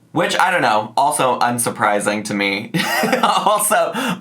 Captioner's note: laughs